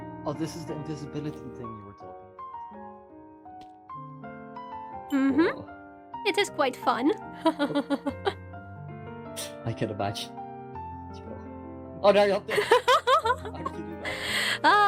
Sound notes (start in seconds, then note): 7.4 laughs; 12.5 ROSE laughs